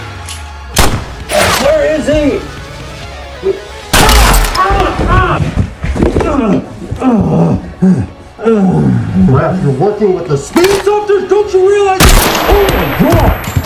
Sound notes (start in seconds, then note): 4.0 armor plate shatters; 5.0 screaming in pain; 6.0 groaning; 12.0 gunshot; 12.1 blood splatters